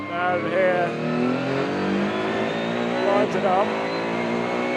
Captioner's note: car engine roaring